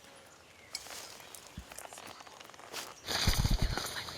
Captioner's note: whispering